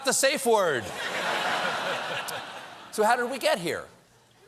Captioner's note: laughter